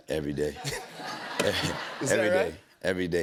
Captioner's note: laughter